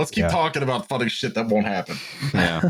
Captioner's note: laughter